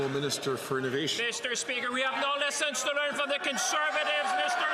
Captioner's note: some Applause